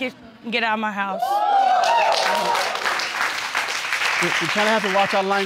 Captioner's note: audience cheering